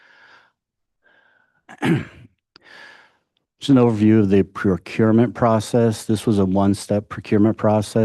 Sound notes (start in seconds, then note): 1.7 clears throat